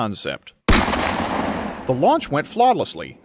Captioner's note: gunfire